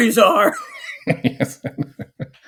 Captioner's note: laughing